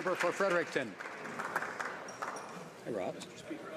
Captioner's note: some Applause